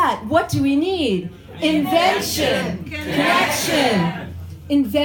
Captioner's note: crowd chants